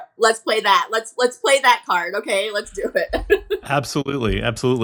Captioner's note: laughs